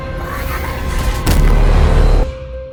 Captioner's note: vicious incoherent yelling